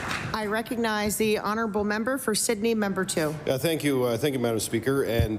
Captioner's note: applause